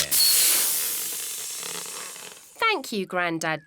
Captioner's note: air hissing